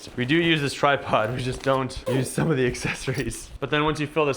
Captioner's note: chuckles